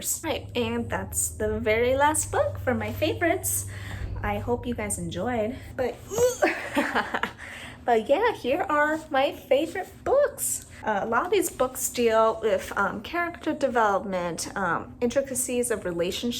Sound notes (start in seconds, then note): 6.1 laugh; 6.3 groan